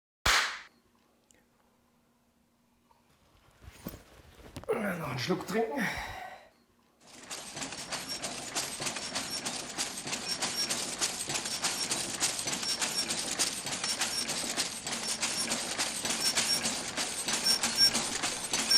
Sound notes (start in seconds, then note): 0.2 claps; 8.2 sounds: Shutters